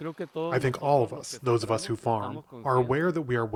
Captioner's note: through translator